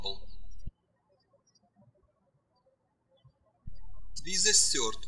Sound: birds chirping

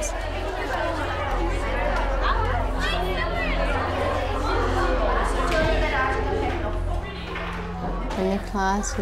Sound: crowd noise

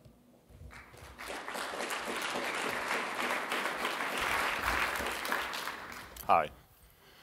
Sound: applause

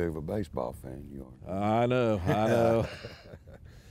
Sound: laughing

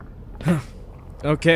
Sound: grunt

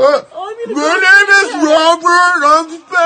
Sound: slurring

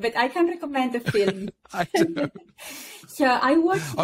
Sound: laughing

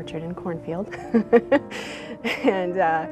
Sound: laughing

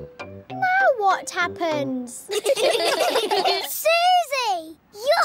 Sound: all giggling

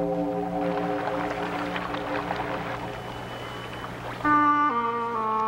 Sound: water lapping; gentle music

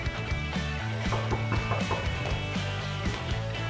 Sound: knocking

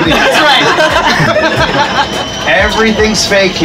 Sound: riders laugh

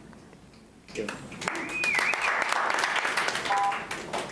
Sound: clapping

